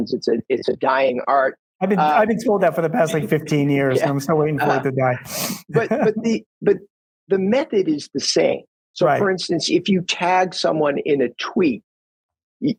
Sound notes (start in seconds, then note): 5.3 laughs